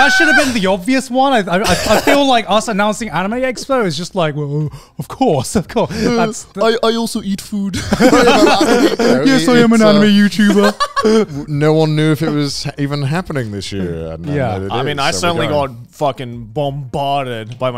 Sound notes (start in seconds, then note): 7.7 all laughing